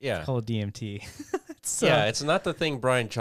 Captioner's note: laughs